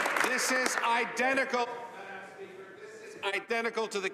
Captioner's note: applause